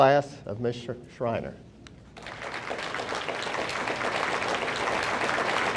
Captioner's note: audience applauding